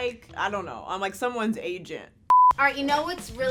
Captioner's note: beep